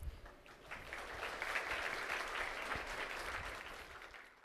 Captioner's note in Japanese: 拍手